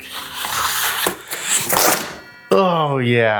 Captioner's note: sword Ringing